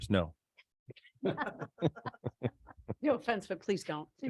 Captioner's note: people laughing